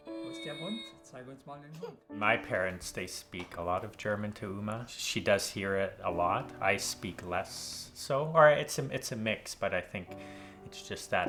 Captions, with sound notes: - [Voiceover] My parents, they speak a lot of German to Uma. She does hear it a lot. I speak less so, it's a mix, but I think it's just that